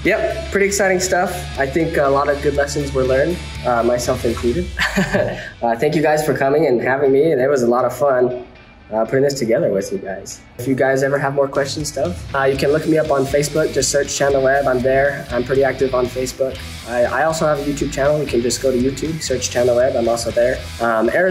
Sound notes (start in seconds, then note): 4.7 laughing